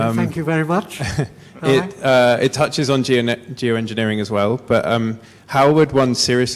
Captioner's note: laugh